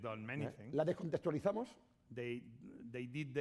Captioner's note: speaking spanish